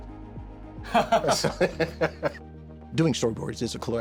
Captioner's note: laughs